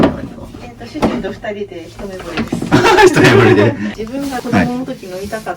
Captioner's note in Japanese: 笑い